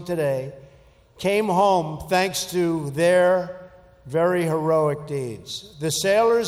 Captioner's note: none